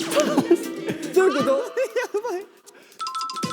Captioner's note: laughing